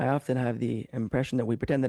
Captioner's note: speaking French